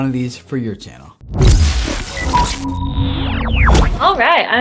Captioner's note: laser sounds